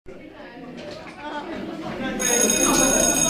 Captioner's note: students murmuring; bell ringing